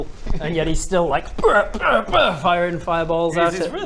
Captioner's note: brr brr brr